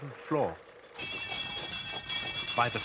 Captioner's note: bells ringing